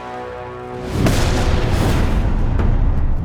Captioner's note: stomping